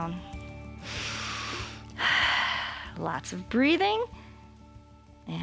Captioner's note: inhales and exhales